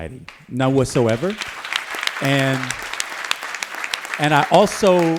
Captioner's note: applause